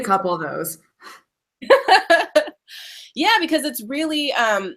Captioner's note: laughing